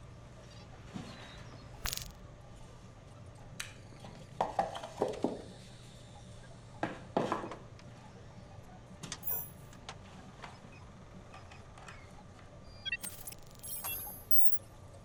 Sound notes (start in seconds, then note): 1.8 glitchy disconnect; 12.9 digital startup noise